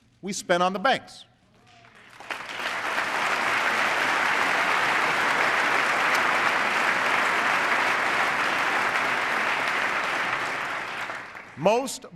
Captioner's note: applause